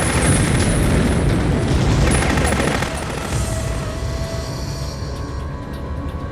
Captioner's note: machine gun firing; bomb explodes